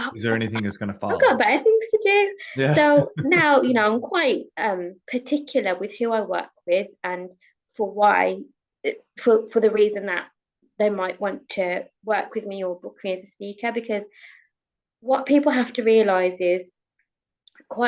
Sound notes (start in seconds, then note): 2.6 chuckles